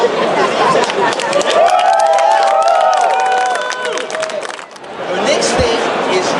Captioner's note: crowd cheers and applause